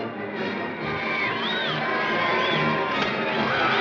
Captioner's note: crowd whistling and cheering